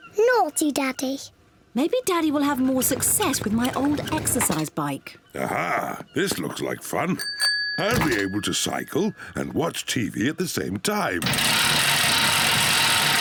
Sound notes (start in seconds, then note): 7.2 bell rings; 11.2 loud rattling